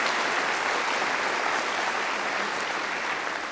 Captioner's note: applause